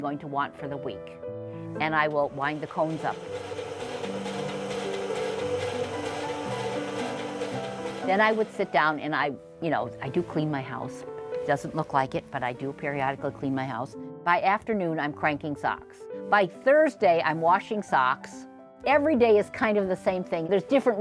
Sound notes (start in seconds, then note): 4.2 piano music continues; 4.2 sound of machine whirring